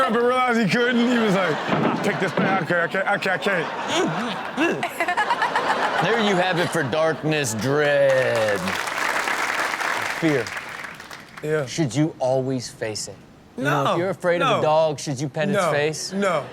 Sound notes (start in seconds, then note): 2.8 audience laughs; 7.7 audience claps; 16.2 audience laughs